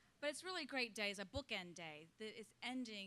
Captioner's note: none